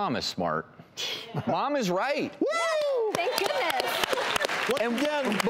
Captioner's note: clapping